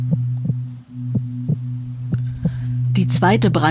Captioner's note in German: Töne des Herzklopfens